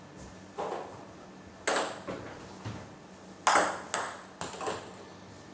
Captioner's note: balls ping pong hitting continues